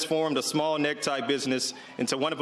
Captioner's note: cheers and applause